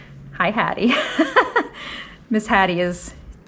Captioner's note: laughs loudly